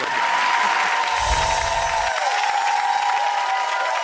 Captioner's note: audience applauds